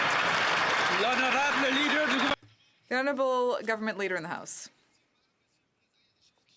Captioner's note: some Applause